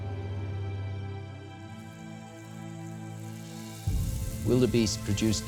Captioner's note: insects chirping